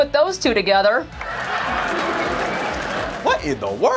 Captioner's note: laugh track